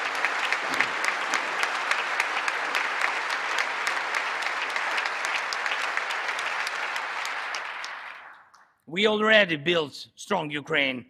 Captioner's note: applause